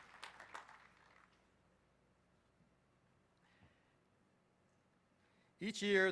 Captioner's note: applause